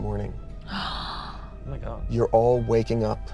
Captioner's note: gasps